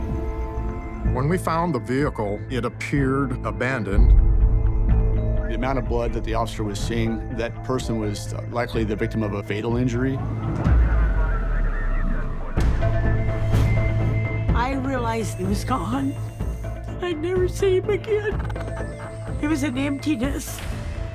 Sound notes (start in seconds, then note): 10.0 police radio chatter; 10.0 siren blaring; 12.1 dramatic music